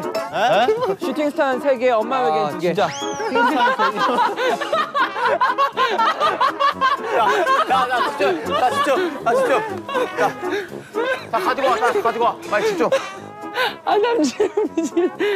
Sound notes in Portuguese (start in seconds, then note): 7.5 rola pela chão enquanto ri